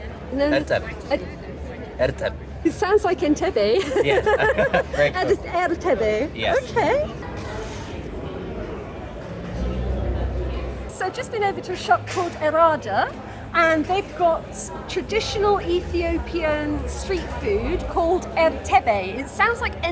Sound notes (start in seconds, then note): 3.8 laughing; 7.3 background chatter